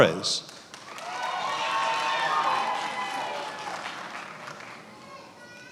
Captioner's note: attendees applauding